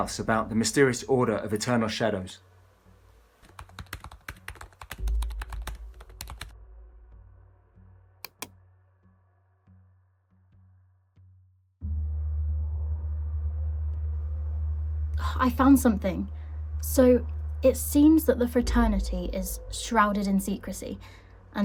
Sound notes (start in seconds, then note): 3.5 keyboard clacking; 8.2 mouse clicking